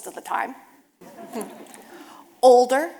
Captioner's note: audience laughing